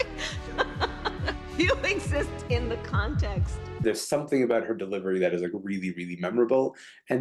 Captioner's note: laughter